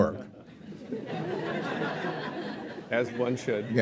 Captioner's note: laughter